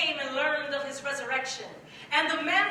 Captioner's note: none